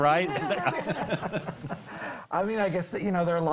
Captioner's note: group laughs